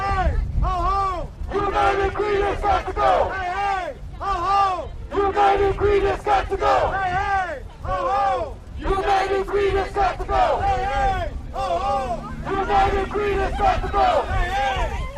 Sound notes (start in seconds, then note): 5.0 chanting